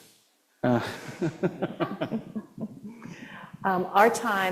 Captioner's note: laughter